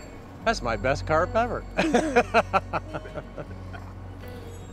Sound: laughs

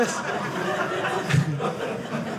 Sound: audience laughing

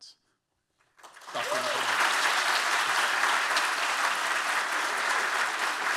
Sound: audience applauding

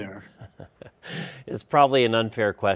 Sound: laughs

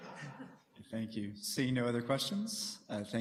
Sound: laughter

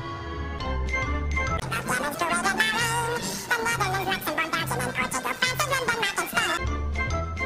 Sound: distorted voice

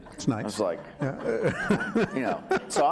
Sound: laughing

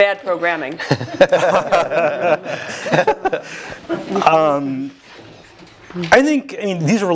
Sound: laugh

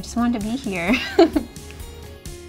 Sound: chuckles

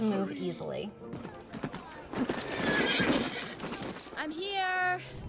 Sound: horse galloping and neighing

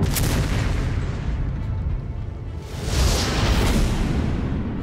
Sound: cannon fires

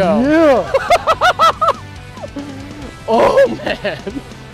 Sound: laughing

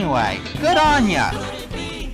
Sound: ding; singing

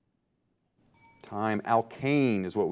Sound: bell rings

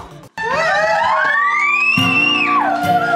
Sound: group cheers excitedly

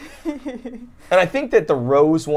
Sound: laughs

